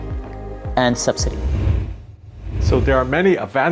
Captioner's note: air whooshing